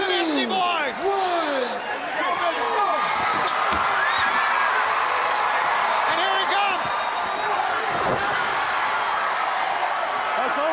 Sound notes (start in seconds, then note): 1.1 crowd cheering; 7.0 crowd chatter